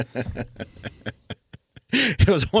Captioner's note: laughing